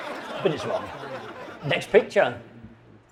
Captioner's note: audience laughing